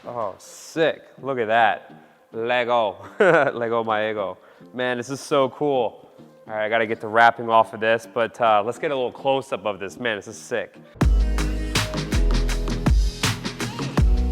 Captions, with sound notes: Oh, sick, look at that. Lago, Lago my ego. (giggles) Man this is so cool. All right, I got to get the wrapping off of this but let's get a little close-up of this, man this is sick. (upbeat music)